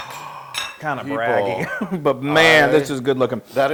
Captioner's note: laugh